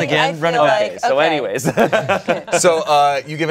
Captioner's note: laughs